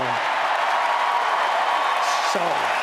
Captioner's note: applause